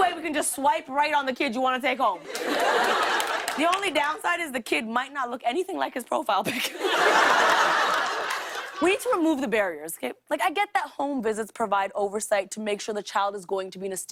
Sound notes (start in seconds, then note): 2.2 laughter; 6.4 laughter